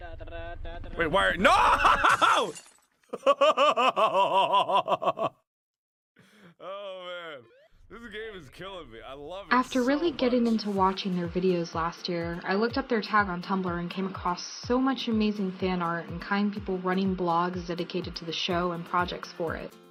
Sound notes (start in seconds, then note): 3.1 Mark abrupts in loud laughter